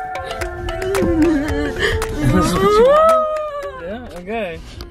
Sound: excited vocalizing

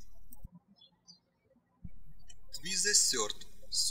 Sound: birds chirping

